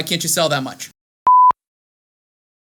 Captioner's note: beep noise